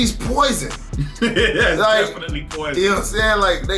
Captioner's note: laughing